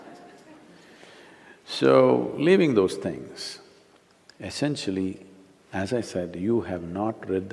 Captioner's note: laughter